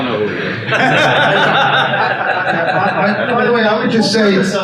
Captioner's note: attendees laugh